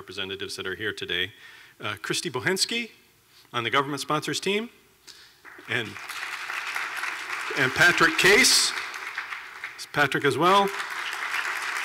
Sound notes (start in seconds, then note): 5.4 clapping